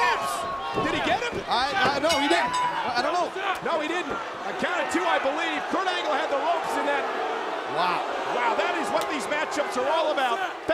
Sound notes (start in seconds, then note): 2.0 ring bell dinging